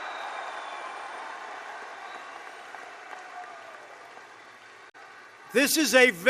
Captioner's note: applause